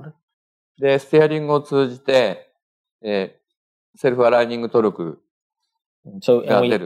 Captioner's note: speaking japanese